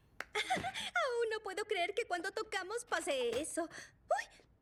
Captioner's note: giggle